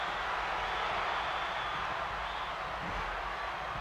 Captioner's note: crowd cheers